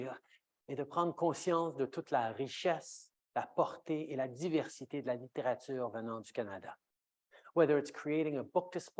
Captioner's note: speaking French